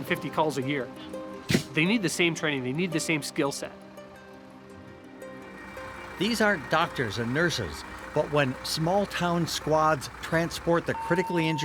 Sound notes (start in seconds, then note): 5.4 truck engine running